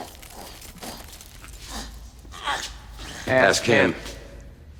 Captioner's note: groaning